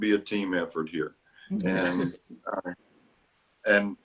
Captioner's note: laughter